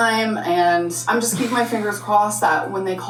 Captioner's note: sighing